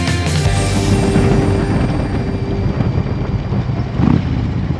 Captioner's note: motorcycle engine roaring